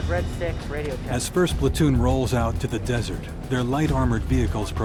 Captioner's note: marine on radio; voiceover